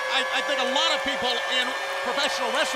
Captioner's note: crowd cheering